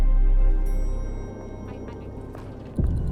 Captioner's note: elevator dings